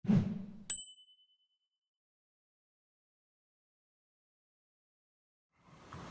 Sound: logo whooshes; logo dings

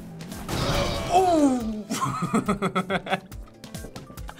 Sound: laughs

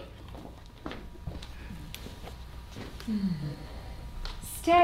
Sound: footsteps receding

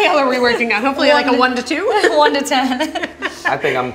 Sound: laughter

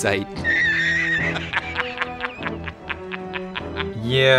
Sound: J. Jonah Jameson cackles

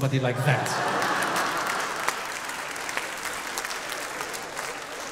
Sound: audience laughing

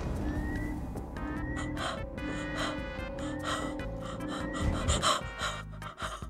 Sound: panicked breathing

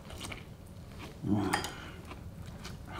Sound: grunting

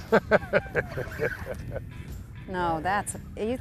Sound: laughter

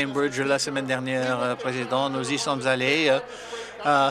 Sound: some Applause

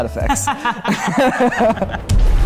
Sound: group laughter

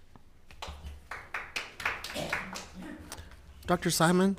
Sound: audience applauding

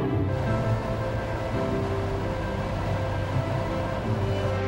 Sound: wind tunnel air

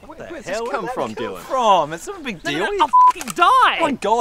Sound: none

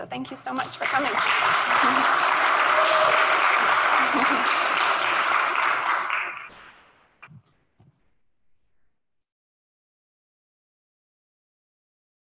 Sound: applause

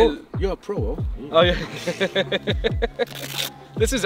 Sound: laughs

